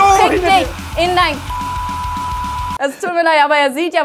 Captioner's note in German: Piepsen